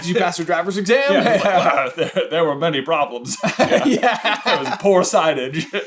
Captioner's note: laughs